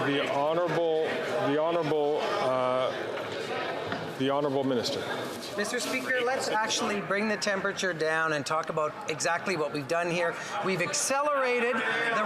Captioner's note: chatter